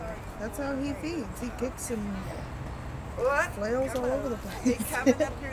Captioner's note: laughs